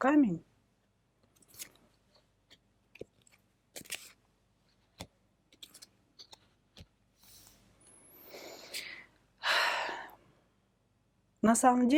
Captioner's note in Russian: вздыхает; тяжело вздыхает